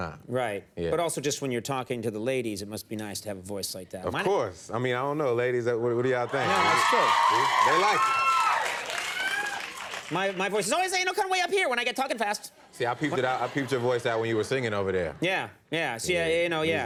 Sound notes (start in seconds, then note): 6.2 audience cheers; 11.1 speaks in a quick, high voice